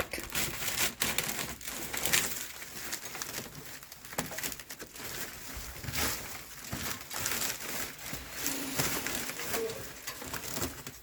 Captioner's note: tearing